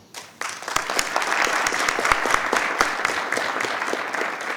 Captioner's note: audience applauding